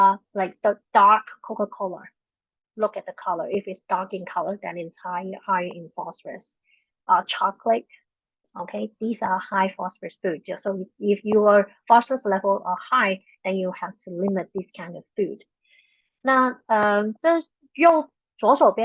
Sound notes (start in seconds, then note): 15.9 speaking chinese